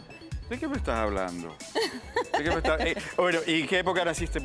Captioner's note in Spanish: Risas